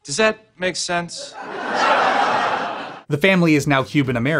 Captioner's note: laugh track